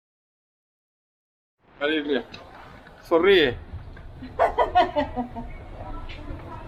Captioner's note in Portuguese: risos